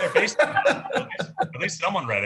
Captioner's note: laughs